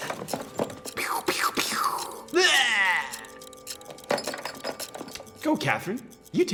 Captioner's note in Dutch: kreunt